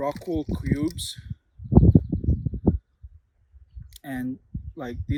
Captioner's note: wind whooshing